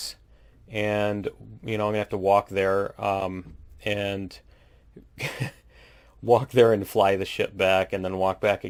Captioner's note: laughs